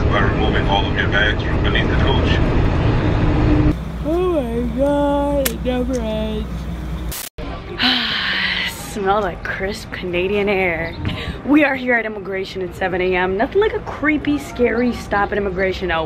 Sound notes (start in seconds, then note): 4.4 yawns; 7.8 exhales deeply